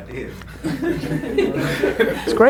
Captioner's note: group laughter